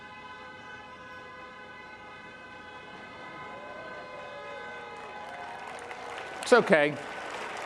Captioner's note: horns beeping; participants cheering; participants applaud